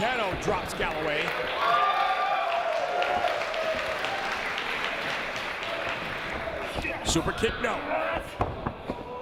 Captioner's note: applause